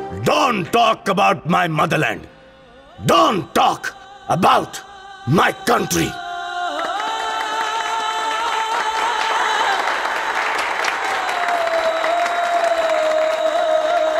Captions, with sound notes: Don't talk about my motherland. Don't talk about my country. [Claps]